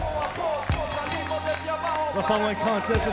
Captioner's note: bell ringing